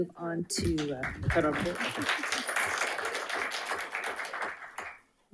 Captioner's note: audience applauding